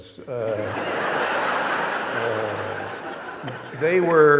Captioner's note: audience laughing